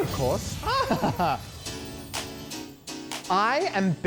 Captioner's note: laughs